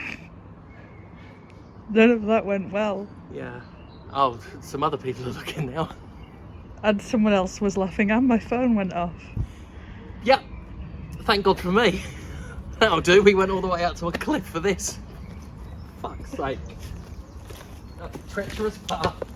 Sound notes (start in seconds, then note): 0.0 snickers; 11.8 laughing